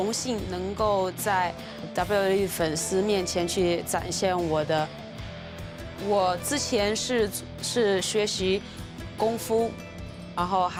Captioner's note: speaking foreign language